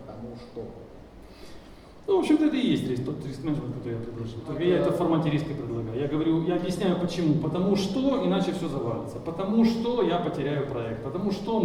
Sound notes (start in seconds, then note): 2.1 speaking in foreign language